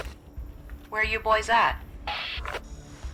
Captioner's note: radio